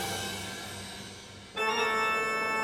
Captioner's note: people chattering